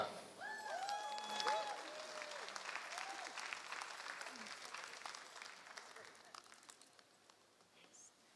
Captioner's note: applause